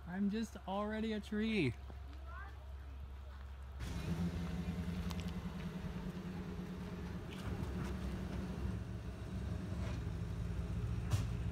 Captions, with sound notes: I'm just already a tree! You are a tree! (pickup engine)